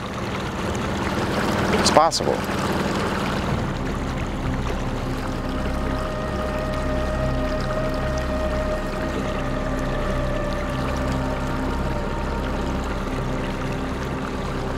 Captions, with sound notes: It's possible. (water sloshing) (somber synth music)